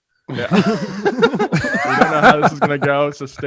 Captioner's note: hosts laughing